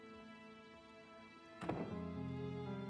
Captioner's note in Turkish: Kapı kapanma sesi